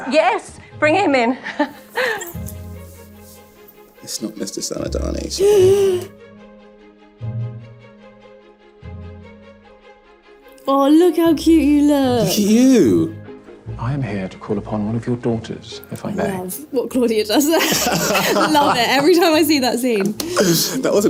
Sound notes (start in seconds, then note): 1.5 Hannah laughing; 2.8 classical music; 5.4 Hannah gasping; 7.3 classical music continues; 17.6 Victor laughing